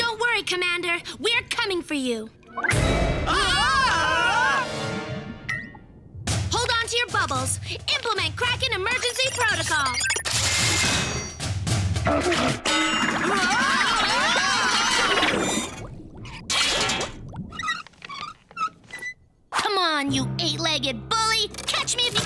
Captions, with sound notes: Don't worry, Commander, we're coming for you. [Screams] Hold on to your bubbles, implement kraken emergency protocol. [Electronic beeping] Hah-hah! [Screams] [Chair squeaks] Come on you eight-legged bully!